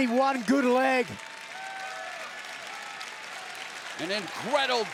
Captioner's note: audience cheers and applauds